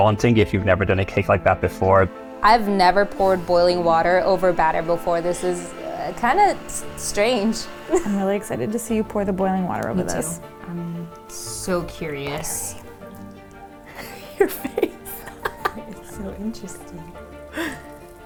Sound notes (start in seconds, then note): 13.8 laughing